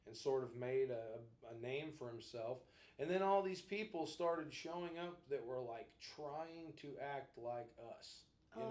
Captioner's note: none